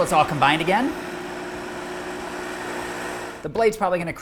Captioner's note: blender whirs